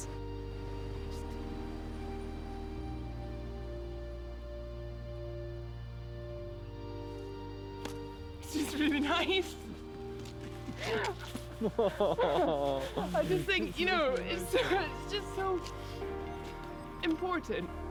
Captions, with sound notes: - Just... It's just really nice! (laughing) I just think, you know, it's just so... important.